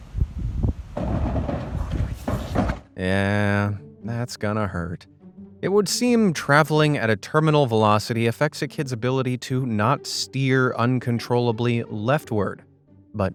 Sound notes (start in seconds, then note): 0.9 bins crash